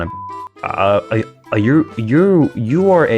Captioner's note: stutter Moment